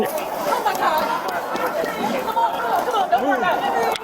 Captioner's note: crowd yelling